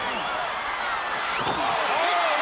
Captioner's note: crowd cheering